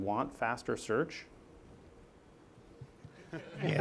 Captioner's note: laughter